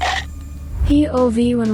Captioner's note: teeth chomping